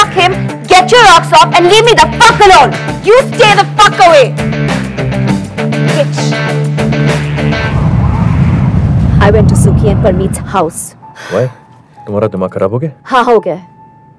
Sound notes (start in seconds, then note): none